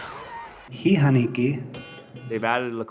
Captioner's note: man speaking Lakota